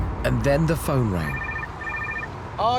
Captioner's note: phone rings